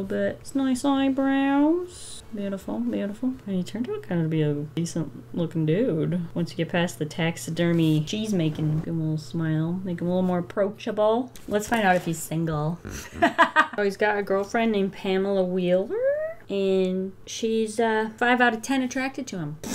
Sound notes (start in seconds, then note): 12.9 laughs